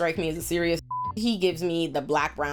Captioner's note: beep